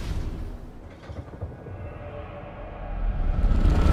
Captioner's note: thunder